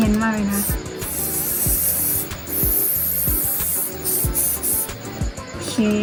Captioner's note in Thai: เสียงพ่นสเปรย์